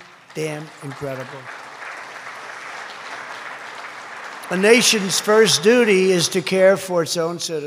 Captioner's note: applause